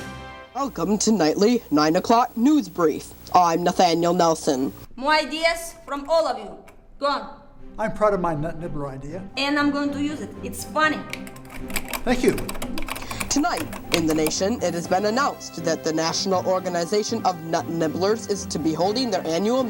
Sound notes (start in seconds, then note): 11.0 typing sounds